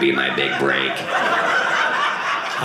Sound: audience laughing

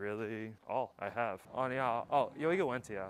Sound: Mandarin

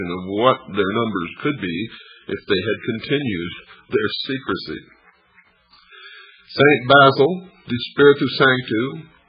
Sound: laughs

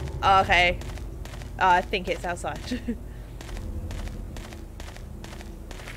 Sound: nervous laugh

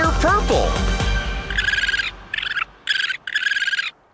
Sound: chirping

